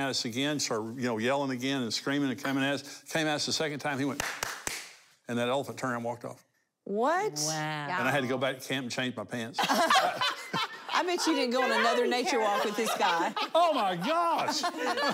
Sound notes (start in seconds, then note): 9.9 laughing; 14.9 laughing